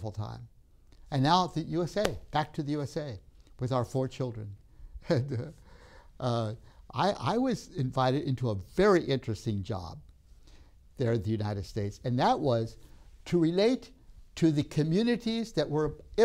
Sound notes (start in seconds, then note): 1.9 claps hands